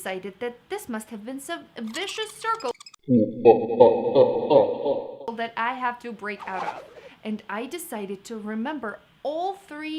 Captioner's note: maniacal laugh